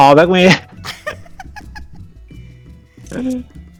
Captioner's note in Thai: หัวเราะ